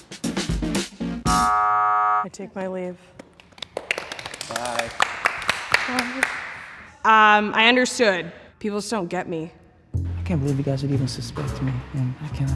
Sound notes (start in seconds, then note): 1.3 elimination buzzer; 3.1 group claps